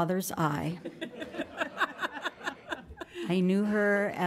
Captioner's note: audience laughs